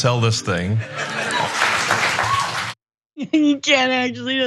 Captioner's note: applause